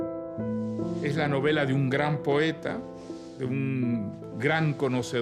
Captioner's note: speaking Spanish